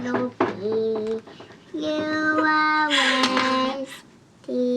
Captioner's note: laughing